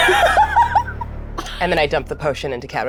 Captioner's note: cast laughs